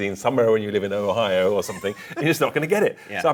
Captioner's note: laughs